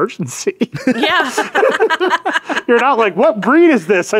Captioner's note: all laughing